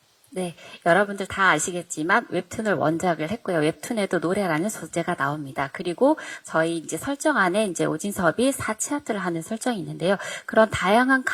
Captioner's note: translating in Korean